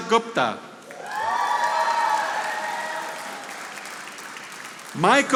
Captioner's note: audience applauding